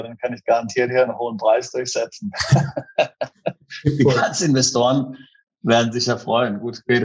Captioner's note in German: lacht